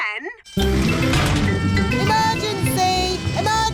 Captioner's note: siren blaring